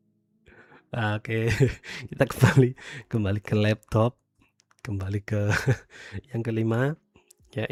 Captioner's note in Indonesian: tertawa; tertawa